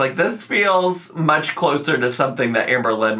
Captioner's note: none